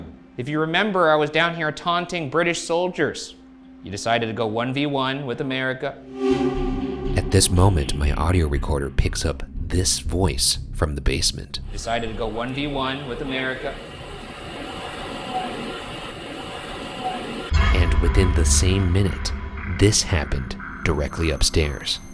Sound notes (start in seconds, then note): 15.3 muffled ghostly speaking